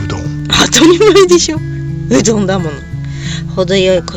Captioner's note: laughs